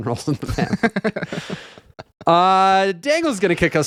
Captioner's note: laughing